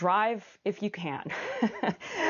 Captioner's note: laughter